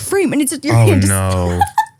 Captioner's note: laughs